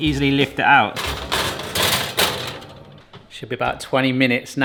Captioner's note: baking dish rattling